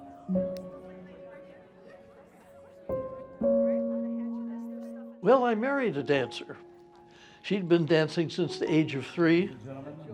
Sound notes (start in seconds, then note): 0.0 sad gentle piano music; 0.6 people chattering